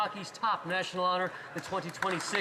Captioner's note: some Applause